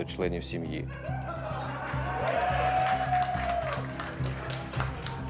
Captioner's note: team laughing and cheering